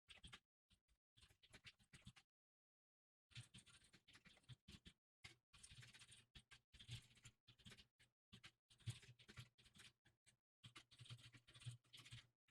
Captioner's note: typing sounds